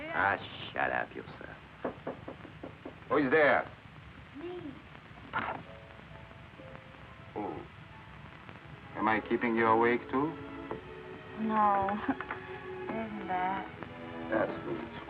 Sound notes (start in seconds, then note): 1.8 knocking on door